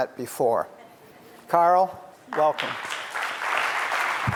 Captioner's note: clapping